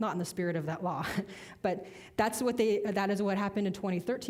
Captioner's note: chuckling